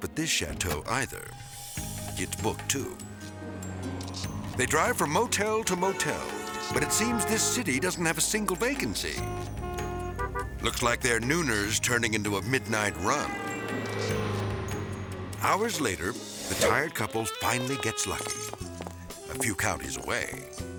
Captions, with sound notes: at this chateau either, it's booked too. They drive from motel to motel, but it seems this city doesn't have a single vacancy. (traffic honking) Looks like their nooner's turning into a midnight run. (gentle music) (traffic honking) Hours later, the tired couples finally gets lucky. (smooth jazz music) a few counties away.